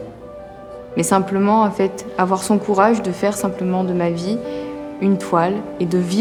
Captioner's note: speaking in foreign language continues